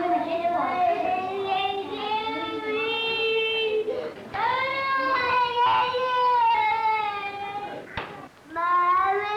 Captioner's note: crying